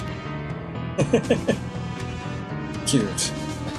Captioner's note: chuckles